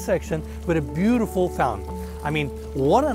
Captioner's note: water trickling